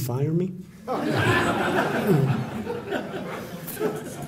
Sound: laughter

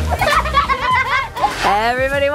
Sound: kids laughing

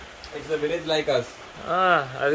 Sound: speaking in foreign language

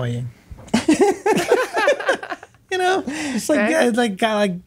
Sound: all laughing

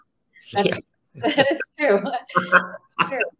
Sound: laughs

